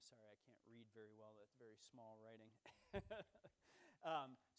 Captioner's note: laughs